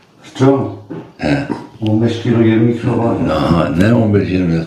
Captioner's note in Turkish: boğazını temizler